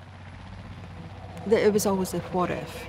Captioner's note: helicopter